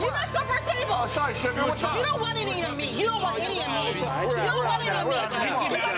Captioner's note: group yells at each other